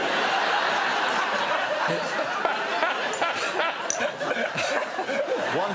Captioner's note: laughter